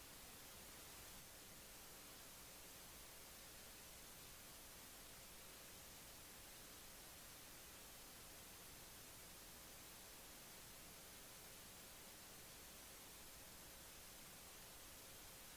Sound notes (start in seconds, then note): none